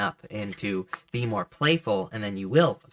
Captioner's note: cards shuffling